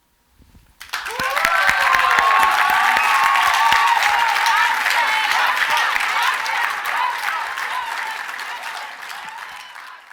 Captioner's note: cheers and Applause; chanting